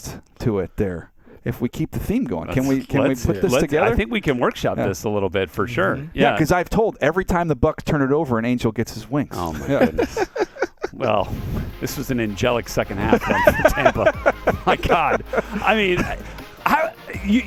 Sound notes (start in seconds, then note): 14.7 laughs